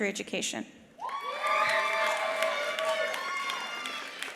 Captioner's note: attendees cheering; attendees applauding